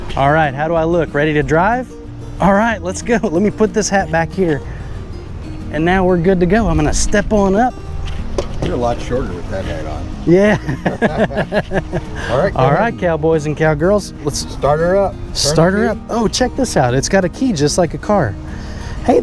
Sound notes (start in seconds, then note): 10.4 both laughing